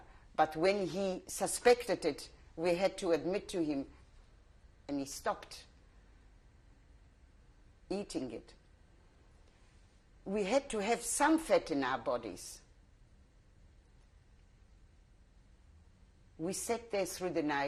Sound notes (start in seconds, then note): 5.9 pauses for 3 seconds; 13.4 pauses for 3 seconds